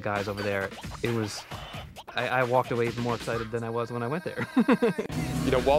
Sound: laughs

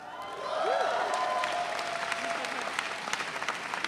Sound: audience cheering

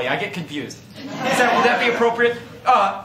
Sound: laughter

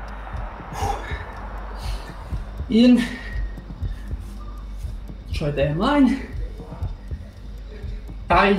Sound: he exhales sharply

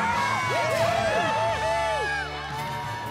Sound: cheering

